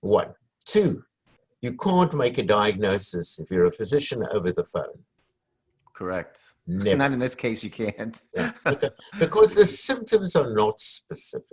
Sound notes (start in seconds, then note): 6.8 laughs